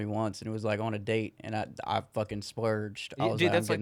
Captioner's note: laughing